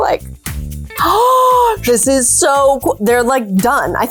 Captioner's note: gasps